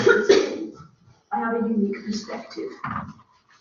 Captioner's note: coughing interruption